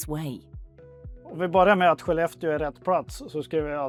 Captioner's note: in Swedish